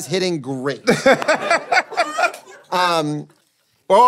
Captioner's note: laughing